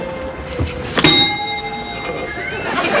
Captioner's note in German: Klingeln